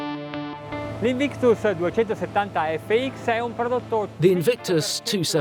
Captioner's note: speaking Italian